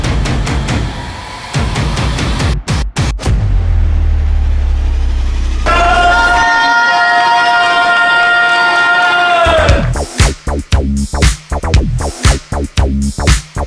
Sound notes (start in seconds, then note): 0.0 dramatic music; 5.7 yelling; 9.4 lively pop music